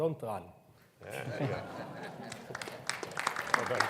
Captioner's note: everyone laughs; audience applauds